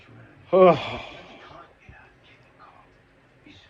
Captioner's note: none